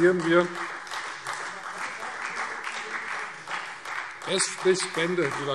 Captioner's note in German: Beifall Freie Demokraten und vereinzelt SPD